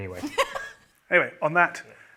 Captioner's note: laughs